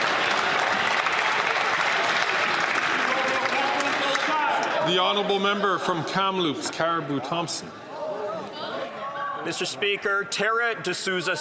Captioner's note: applause